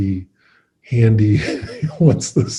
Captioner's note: laughing